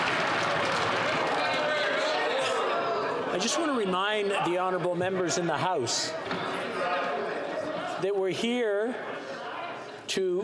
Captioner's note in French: applaudissements